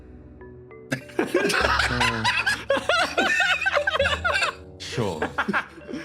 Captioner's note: laughs